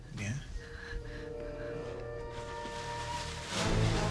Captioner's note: panting